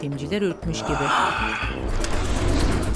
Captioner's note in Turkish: Nefes sesi